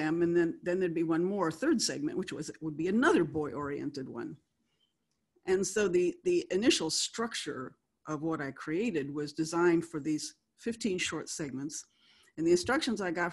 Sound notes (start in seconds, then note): none